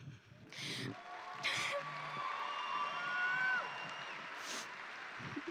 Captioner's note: audience applauding and cheering